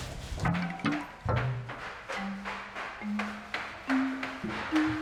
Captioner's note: shoes clacking down stairs